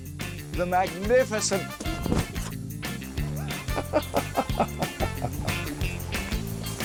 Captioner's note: laughs